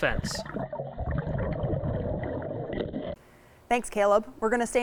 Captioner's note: water gurgling